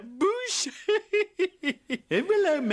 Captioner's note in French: rires